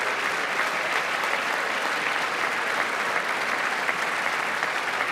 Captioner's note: applause